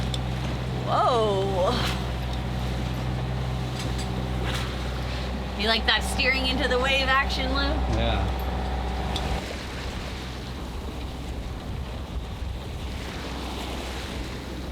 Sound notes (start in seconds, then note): 10.7 lapping waves